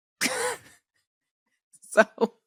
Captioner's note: laughs